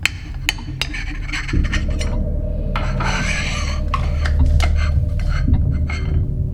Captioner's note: plate scritches; knife clinks